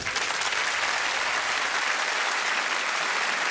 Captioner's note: audience clapping